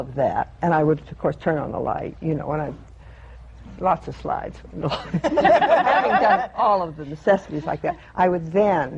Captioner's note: laughter